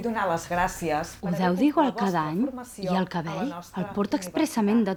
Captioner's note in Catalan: Veu interna de la Lisa